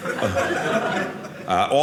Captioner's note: audience laughing